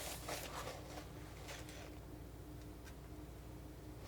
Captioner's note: scratching